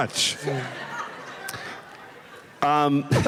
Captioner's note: laughter